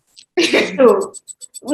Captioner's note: laugh